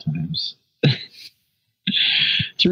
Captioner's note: laughs